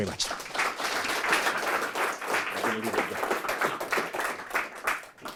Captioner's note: audience applauds